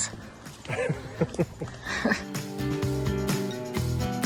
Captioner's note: laughs; mellow music